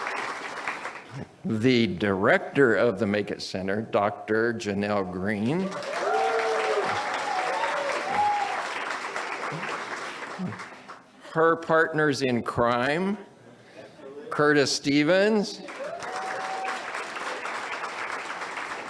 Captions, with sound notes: (audience cheers) the Director of the Make It Center, Dr. Janelle Green, (audience cheers) her partners-in-crime, Curtiss Stevens,